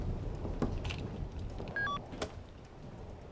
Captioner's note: beeping